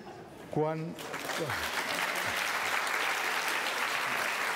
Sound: applause

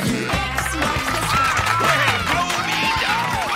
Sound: cheering

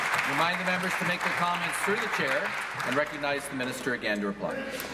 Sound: applause

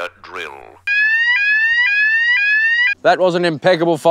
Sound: fire alarm blares

